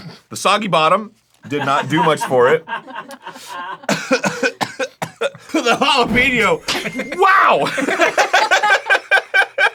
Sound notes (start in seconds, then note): 2.8 the crew laughs and coughs; 7.6 everyone laughs